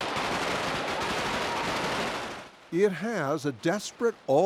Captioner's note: gunfire